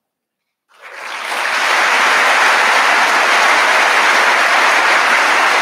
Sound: audience applauding

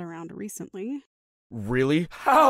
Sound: In Andy’s voice

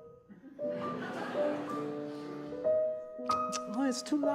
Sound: audience laughs

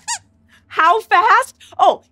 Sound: squeaks squeaks

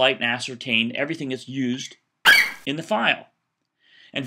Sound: FlightCheck eagle screeches

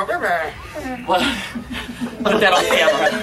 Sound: immediate laughter

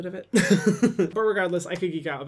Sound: laughs

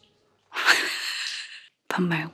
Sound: laughing

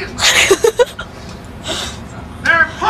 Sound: laughing

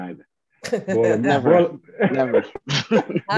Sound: all laughing

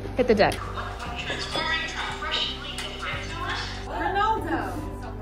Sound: muffled train station audio

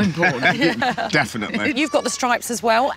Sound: laughing

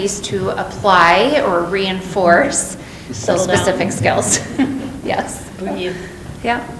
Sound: laughs

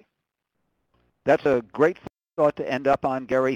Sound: voiceover

